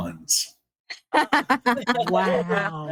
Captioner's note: laughing